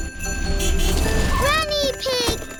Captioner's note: horn honks